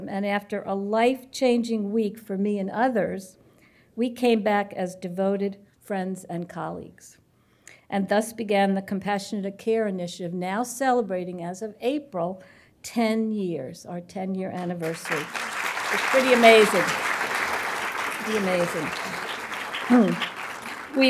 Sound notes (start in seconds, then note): 14.6 applause